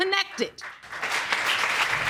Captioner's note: audience clapping